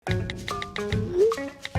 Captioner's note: keyboard clicking; text message swooshes; keyboard clicking